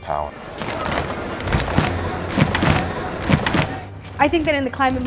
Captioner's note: people stomping